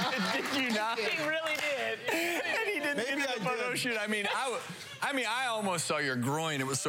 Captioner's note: laughter